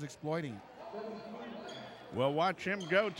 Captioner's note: shoes squeaking; yelling